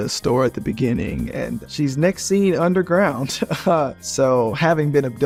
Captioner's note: chuckles